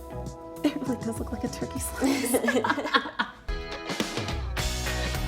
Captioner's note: laughing; mid tempo music